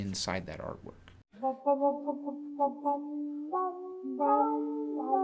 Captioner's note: comedic humming